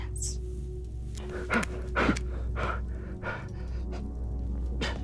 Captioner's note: Gerry panting